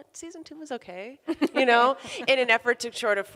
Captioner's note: laughs